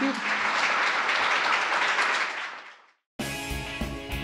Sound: applause; upbeat instrumental music

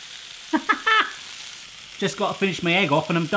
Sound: chuckling

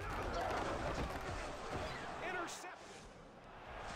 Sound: clattering and yelling

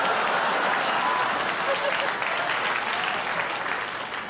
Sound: audience laughter

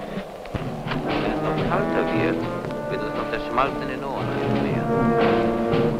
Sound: German spoken audio

